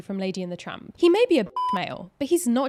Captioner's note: beeps